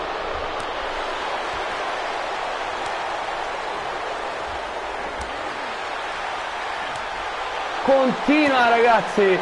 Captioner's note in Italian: Applauso